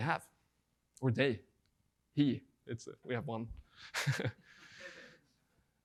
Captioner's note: laughing